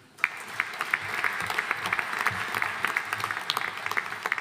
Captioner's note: audience applauding